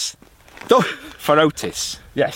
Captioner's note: laughs